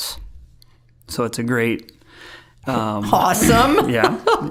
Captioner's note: laughing